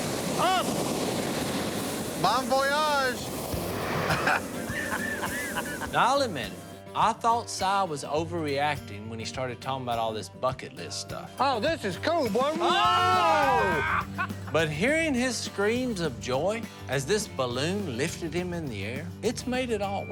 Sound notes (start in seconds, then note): 4.0 laughter; 12.4 yelling